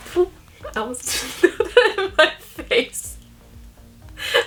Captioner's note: laughing